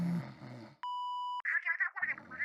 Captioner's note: message beep